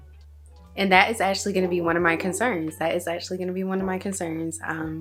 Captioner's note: neighbor's dogs barking in the background